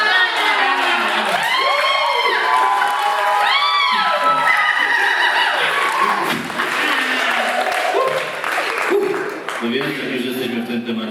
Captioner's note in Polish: Aplauz